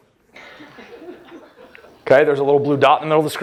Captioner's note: laughter